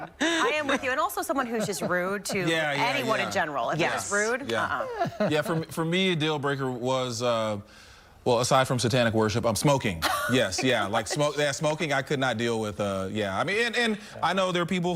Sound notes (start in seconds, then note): 1.3 laughter